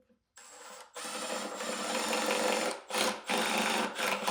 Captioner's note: driller whirring